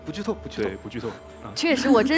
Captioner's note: laughs